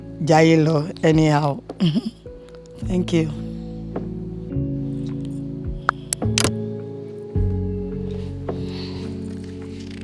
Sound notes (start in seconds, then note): 5.9 phone clicks